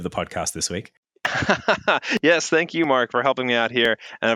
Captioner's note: laughs